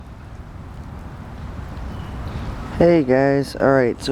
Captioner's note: background hum of traffic and bird calls